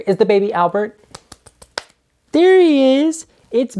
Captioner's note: claps hands